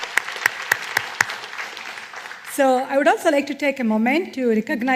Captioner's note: applause